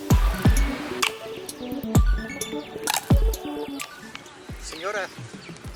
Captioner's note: none